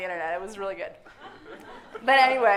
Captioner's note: audience laughing